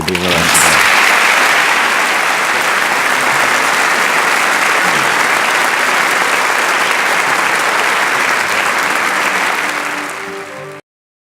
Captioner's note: applause